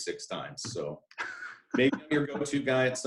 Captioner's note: chuckling